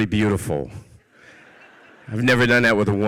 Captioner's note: audience laughs